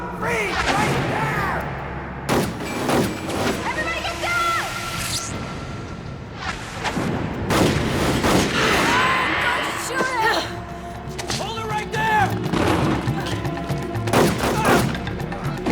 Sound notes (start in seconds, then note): 2.6 gunshots; 8.6 grunts; 13.4 sighs